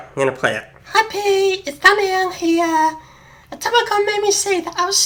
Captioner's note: in a falsetto voice